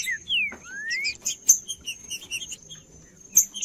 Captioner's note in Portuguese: trinca ferro cantando